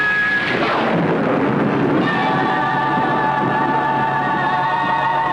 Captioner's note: thunder